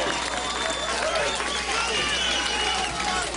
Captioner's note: applause